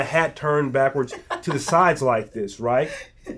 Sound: laughs

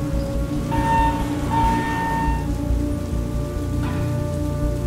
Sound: elevator opening

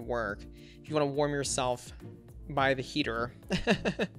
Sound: laughs

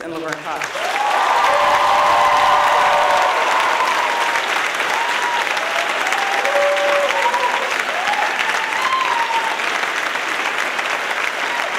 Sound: loud applause

